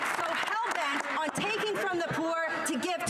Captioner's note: some Applause